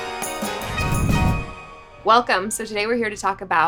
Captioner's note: lively music; air whooshes